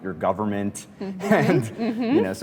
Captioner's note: laughs